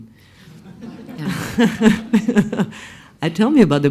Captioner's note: laughs